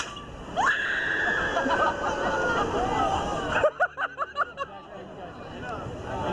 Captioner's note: riders screaming; riders laughing